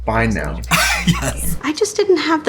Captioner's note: laughs